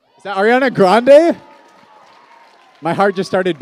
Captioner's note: cheers and applause